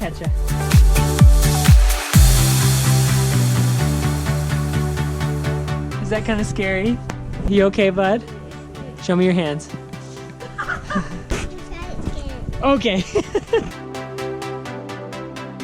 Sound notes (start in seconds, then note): 10.4 laughs; 12.8 laughs